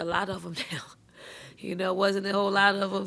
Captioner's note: woman laughs